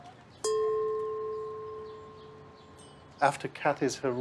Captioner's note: bell ringing